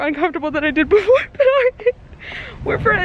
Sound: laughter

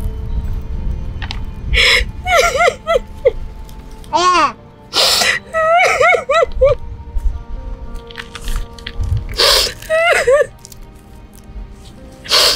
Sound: tears

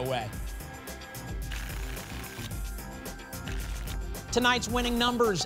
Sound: tickets shuffling

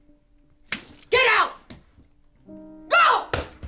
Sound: drink splashing

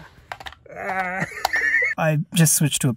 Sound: arghh!

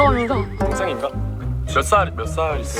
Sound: speaking informally

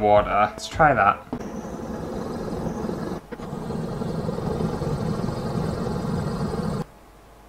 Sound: fast Scratchy Sounds

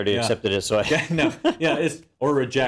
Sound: laugh

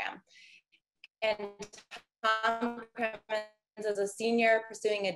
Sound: audio distorts

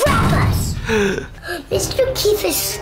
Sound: gasp

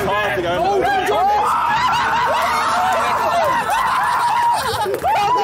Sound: Sidemen cheering

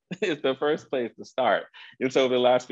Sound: chuckles

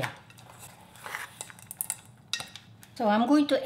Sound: spoon clinking

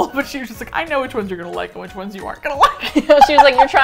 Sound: both laugh

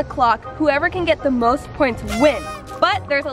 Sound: party horn

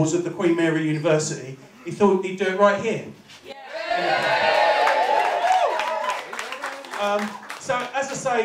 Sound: cheering

